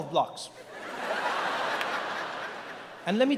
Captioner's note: audience laughs